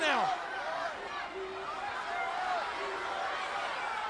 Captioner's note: crowd yelling